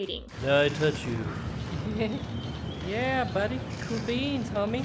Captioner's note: uncomfortable laugh